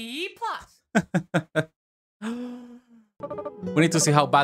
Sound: chuckles with confidence

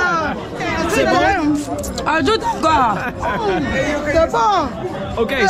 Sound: women speaking foriegn language

